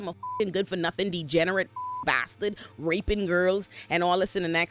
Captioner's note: beep